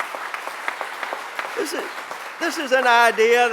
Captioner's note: applause